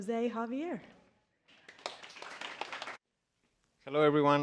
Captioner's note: applause